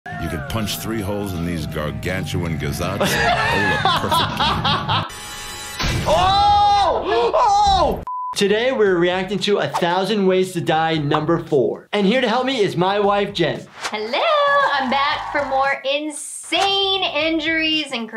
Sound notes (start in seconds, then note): 2.9 laughing; 5.1 suspenseful sound effect